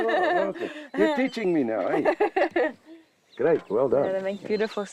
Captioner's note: chuckles; laughs